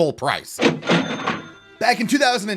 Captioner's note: cha-ching